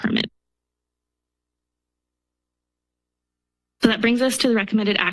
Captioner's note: pause